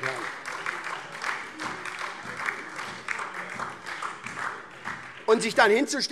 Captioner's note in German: Beifall SPD und DIE LINKE